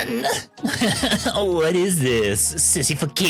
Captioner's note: laughing